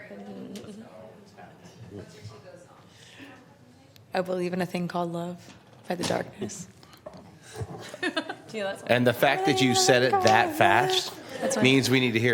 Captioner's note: laughter